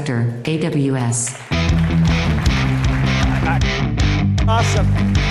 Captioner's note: audience claps; upbeat music